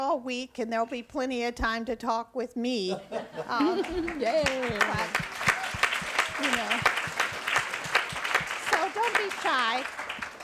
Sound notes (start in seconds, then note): 2.9 laughs; 3.8 audience applauds